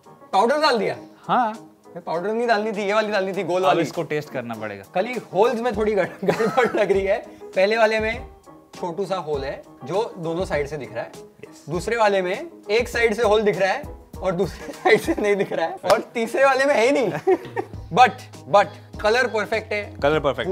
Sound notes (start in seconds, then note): 17.0 laughs